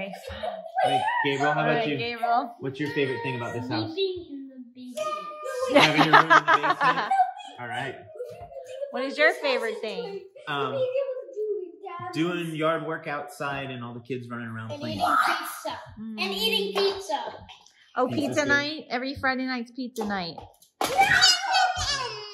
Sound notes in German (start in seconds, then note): 5.5 Gelächter